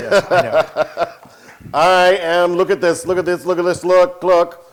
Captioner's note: laugh